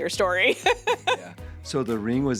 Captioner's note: laughs